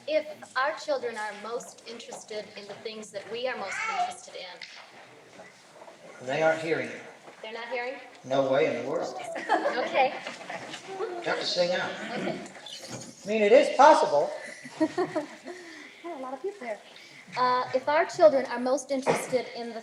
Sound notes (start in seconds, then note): 9.2 laughter; 14.4 laughs